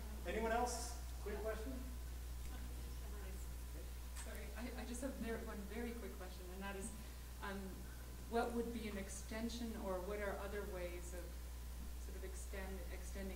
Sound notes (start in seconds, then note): 4.6 voiceover